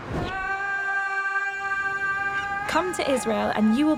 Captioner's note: shouting loudly